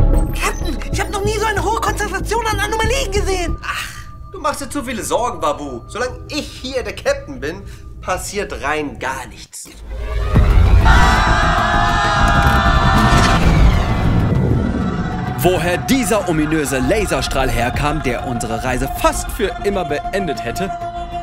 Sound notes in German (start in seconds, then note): 11.9 schreien